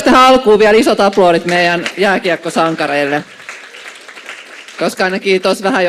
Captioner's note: Aplodeja